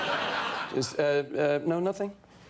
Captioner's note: audience laughing